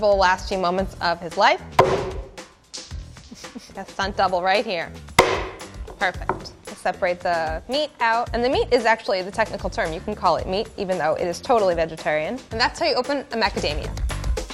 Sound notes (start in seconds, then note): 1.7 hammer bashes; 5.1 bashes